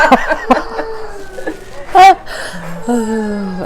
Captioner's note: laughing